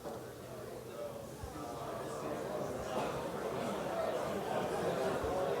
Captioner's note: students talking